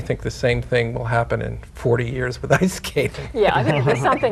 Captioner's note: laughing